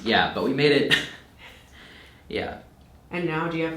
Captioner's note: chuckles